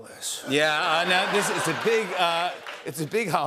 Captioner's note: laughter